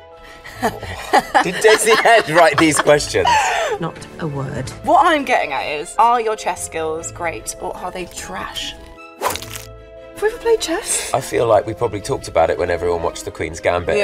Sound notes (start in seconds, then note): 0.4 Jessie laughing; 9.2 throwing object